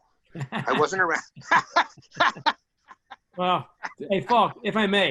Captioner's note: laughs